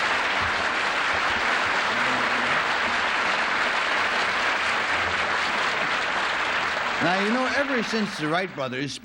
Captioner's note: applause